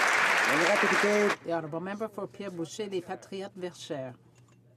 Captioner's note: some Applause